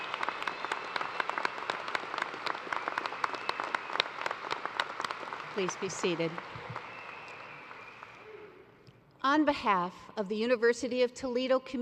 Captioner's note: cheers and applause